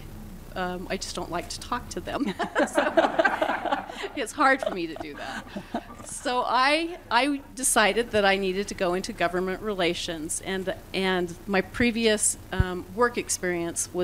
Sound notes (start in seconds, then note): 2.2 laughter